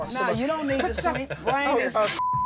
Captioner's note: laughing